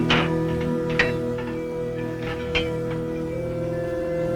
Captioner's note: metal clanking